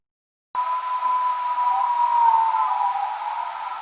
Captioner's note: animal howling